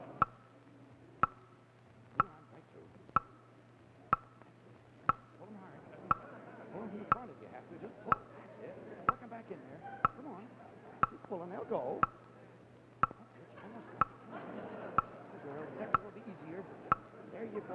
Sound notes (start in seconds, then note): 4.0 audience murmuring; 6.9 host speaking quietly